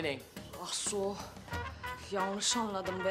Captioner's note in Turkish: Almanca konuşma